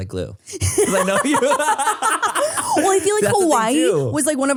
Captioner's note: all laugh